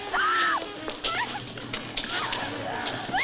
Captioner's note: she screams